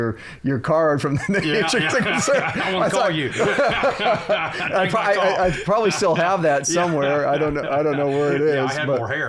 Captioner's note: laughter